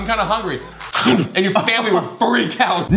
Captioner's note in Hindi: चबाने की आवाज़